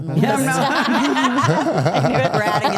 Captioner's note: participants laugh